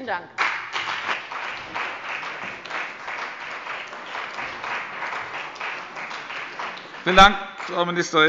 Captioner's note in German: Beifall bei dem BÜNDNIS 90/DIE GRÜNEN und der CDU